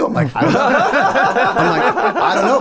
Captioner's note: all laughing